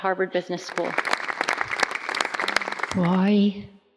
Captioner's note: applause